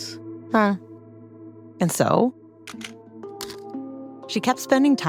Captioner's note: humming in agreement